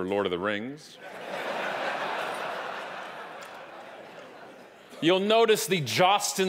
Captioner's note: audience laughing